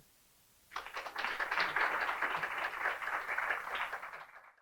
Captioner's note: attendees clapping